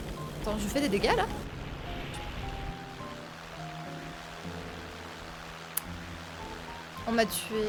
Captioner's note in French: bruit moteurs